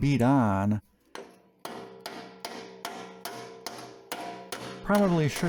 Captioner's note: beating "on" sounds